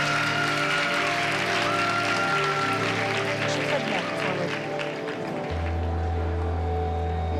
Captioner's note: cheering and applause